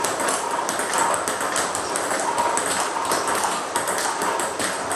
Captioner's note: ball ping pong hitting continues